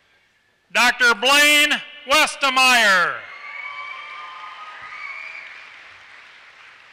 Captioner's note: applause